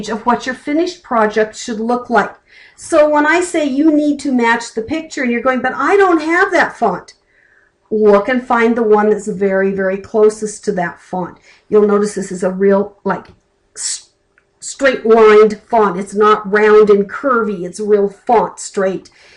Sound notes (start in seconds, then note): none